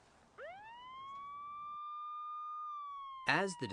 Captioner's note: sirens